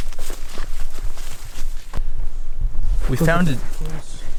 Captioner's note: footsteps pattering